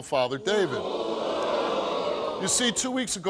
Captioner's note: audience booing